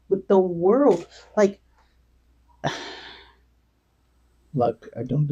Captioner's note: sighs